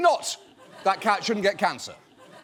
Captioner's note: audience laughs